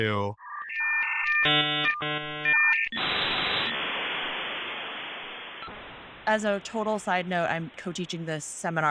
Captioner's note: old school internet connection noises